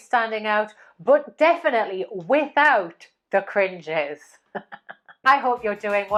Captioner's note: laughs